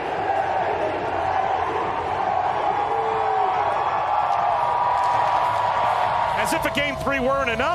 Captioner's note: crowd chants